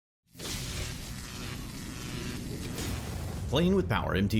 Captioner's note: electric currents buzzing